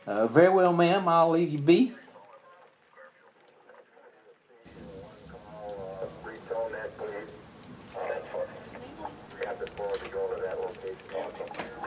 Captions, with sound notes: Um, very well, ma'am, I'll leave you be. [police chatter over walkie-talkie] [police chatter outside]